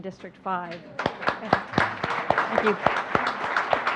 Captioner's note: audience clapping